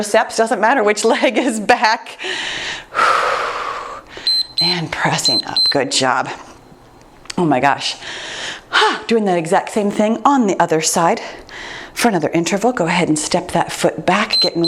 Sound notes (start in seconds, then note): 4.2 timer beeps